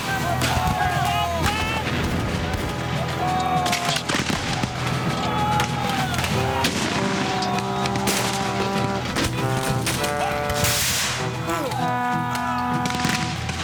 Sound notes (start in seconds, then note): 0.0 men yelling